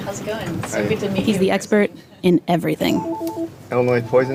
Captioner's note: phone rings